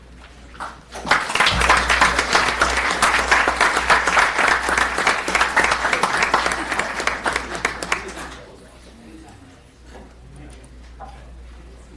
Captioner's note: applause